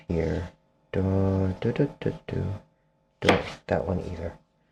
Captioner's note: humming